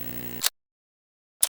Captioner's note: click